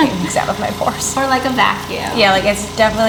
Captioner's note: laughs